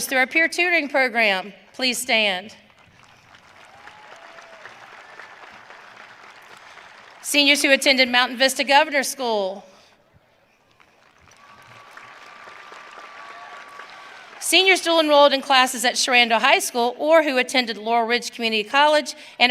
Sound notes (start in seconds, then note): 2.7 audience cheering; 10.6 audience cheering